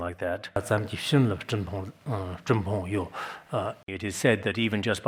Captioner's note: citing scripture in Tibetan